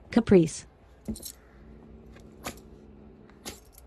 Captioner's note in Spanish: gruñe